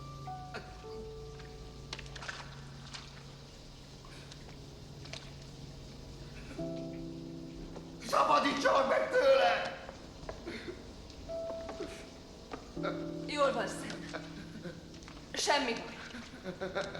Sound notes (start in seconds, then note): 11.0 panting; 15.7 sobbing